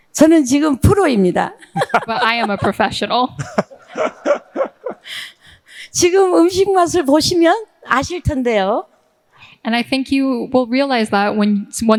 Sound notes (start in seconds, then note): 0.2 speaking in foreign language; 1.6 all laughing; 6.0 speaking in foreign language